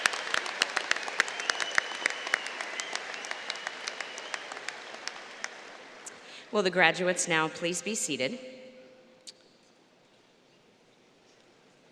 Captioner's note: applause